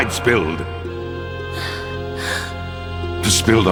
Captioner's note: gasp